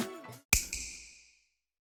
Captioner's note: snap